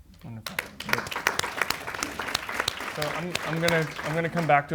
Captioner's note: audience applauds